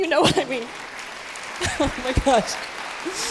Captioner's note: applause